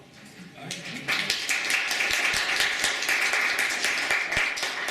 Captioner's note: applause